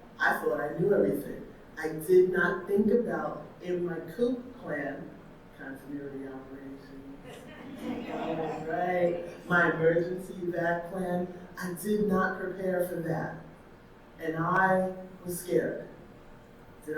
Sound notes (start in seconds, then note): 7.4 audience laughing